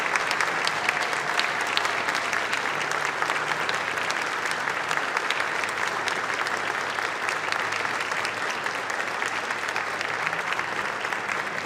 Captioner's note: applause